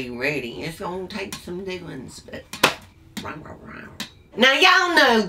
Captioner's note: growls